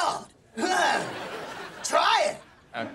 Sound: laughing

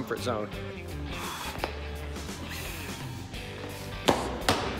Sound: exhales

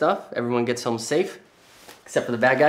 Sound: none

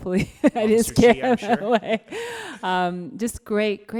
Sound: laughs

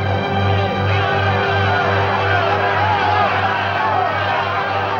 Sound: lumbermen shouting

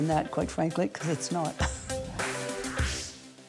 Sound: chuckles

